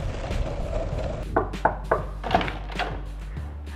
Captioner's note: knocking